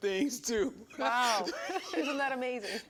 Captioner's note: laughs